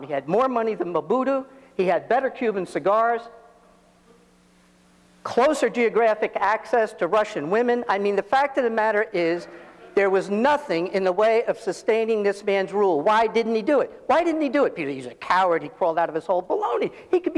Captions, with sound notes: He had more money than Mobutu, he had better Cuban cigars, closer geographic access to Russian women. I mean the fact of the matter is (audience laughs) there was nothing in the way of sustaining this man's rule. Why didn't he do it? Why didn't he do it? Because he's a coward, he crawled out of his hole. Baloney!